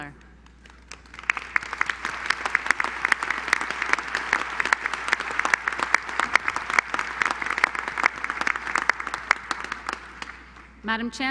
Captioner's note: applause